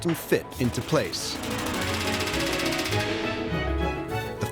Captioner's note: tool whirring